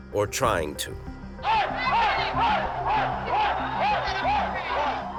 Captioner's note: chanting